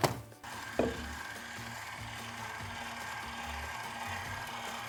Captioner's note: machine whirring